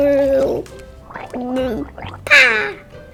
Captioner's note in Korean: 뽀글뽀글